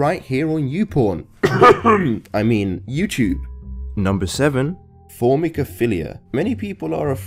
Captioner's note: cough